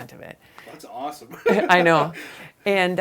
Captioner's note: laughing